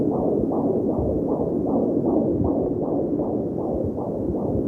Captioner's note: heart beating